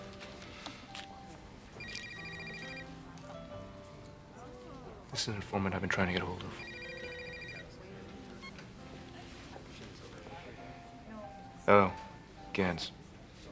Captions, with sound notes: [ Sighing ] [ Ringing of cell phone ] THIS IS AN INFORMANT I'VE BEEN TRYING TO GET A HOLD OF. HELLO. GANS.